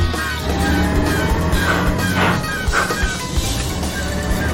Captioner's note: gears grinding